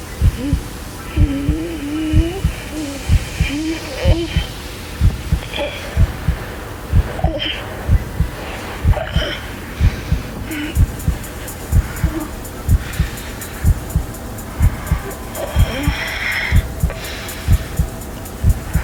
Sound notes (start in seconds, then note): 0.1 heartbeats; 4.2 labored breathing; 5.6 heartbeats; 12.6 labored breathing; 13.9 heartbeats